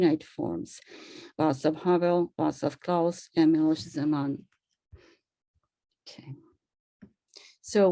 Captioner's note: non-english speech